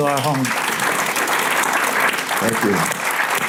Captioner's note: audience applauding